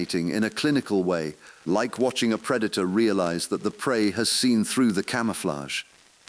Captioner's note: exhale